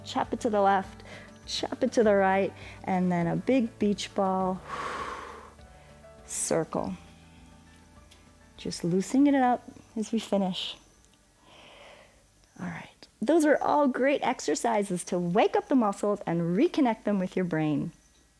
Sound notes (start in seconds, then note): 4.6 exhales